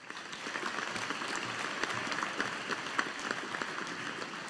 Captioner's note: audience applauding